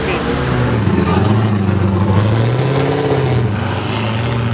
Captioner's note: car engines roar